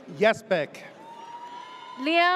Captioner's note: audience cheers